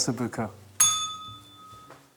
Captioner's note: bell rings